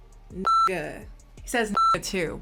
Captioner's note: beep